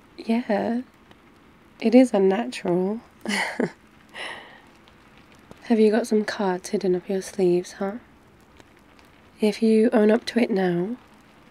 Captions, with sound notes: yeah... it IS unnatural *laughs* have you got some cards hidden up your sleeves huh? if you own up to it now